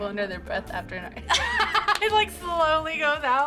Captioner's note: both laugh